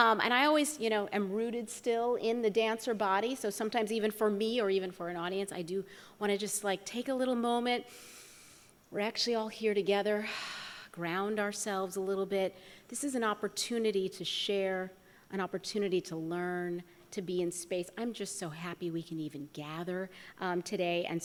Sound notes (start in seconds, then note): 7.9 inhales; 10.5 exhales